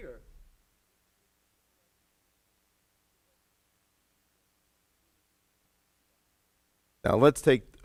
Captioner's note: audio Cuts Out